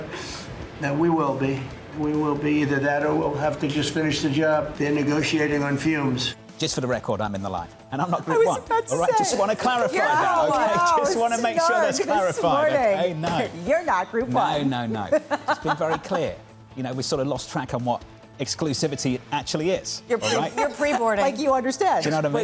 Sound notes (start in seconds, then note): 10.5 laughter; 15.0 laughter